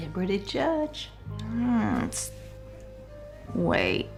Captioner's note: groans